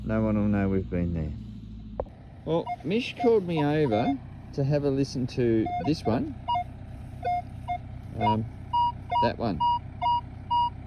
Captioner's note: beep beep